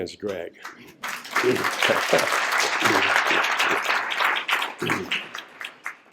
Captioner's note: applause